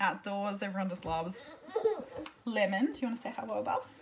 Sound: cries

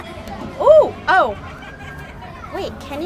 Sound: laughing; exclaims surprisedly

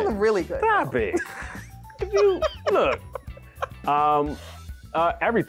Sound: laughs

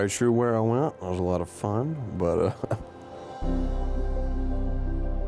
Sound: chuckles

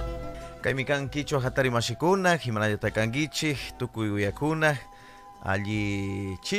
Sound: habla en quichua

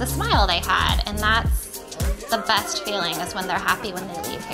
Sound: cheering

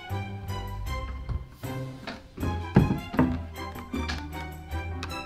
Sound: steps approaching; wood creaking

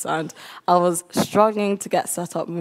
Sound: none

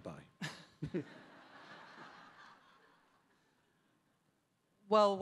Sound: audience laughing

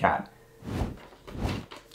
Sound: air whooshing

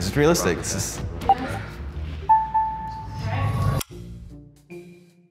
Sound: bell dings; playful music

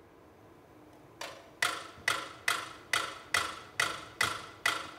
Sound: metronome ticking

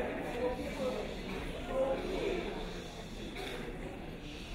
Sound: crowd hushing

